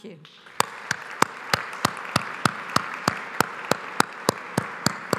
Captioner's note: audience applauds